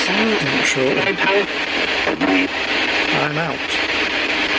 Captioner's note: Ovilus speaking